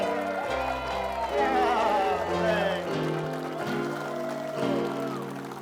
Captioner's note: crowd cheering; piano music